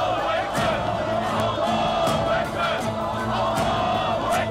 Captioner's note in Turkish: Hep bir ağızdan